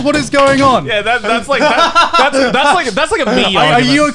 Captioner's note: all laughing